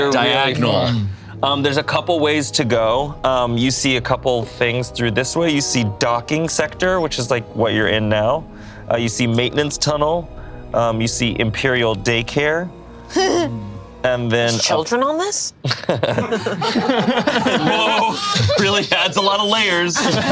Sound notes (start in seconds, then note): 13.1 laughs; 15.6 group laughs